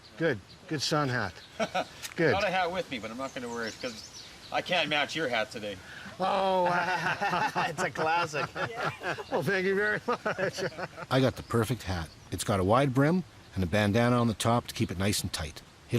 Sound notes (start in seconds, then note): 5.9 laughing